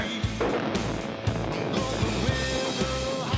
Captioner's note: explosion erupts